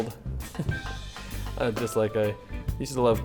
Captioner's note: chuckling